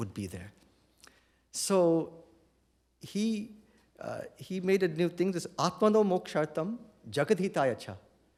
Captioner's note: non-english